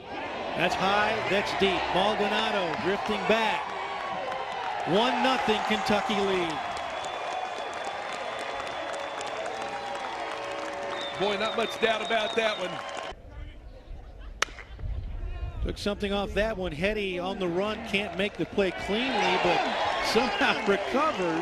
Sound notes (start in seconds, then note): 13.4 cheering and applause